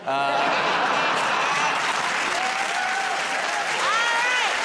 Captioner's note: cheers and applause